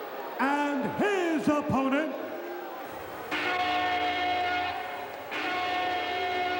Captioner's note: horn blaring